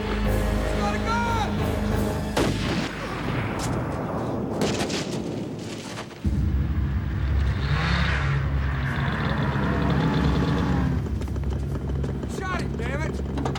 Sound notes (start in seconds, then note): 2.5 gun shot; 8.0 engine revving